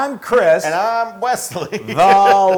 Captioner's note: laugh